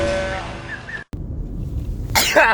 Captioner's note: beginning of sneeze